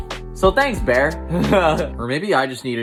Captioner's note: chuckles